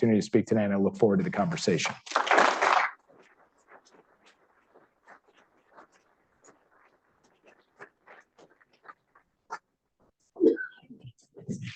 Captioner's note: applause